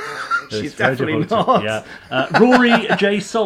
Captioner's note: laughing